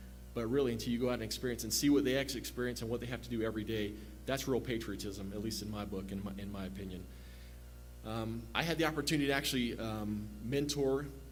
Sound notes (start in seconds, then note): none